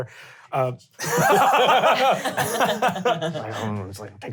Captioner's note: laughing